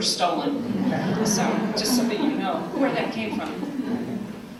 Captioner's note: laughter